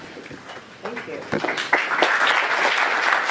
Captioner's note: applause